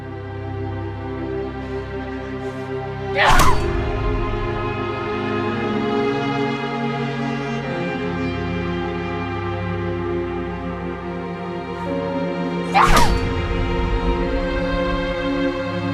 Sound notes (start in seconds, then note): 0.1 dramatic orchestral music; 3.1 Aleks grunting; 12.7 Aleks grunting